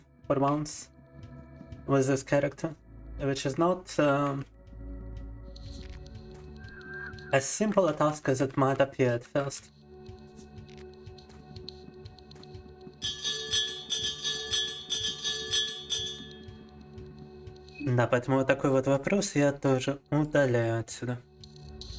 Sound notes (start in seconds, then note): 9.9 bell ringing; 15.7 speaking in foreign language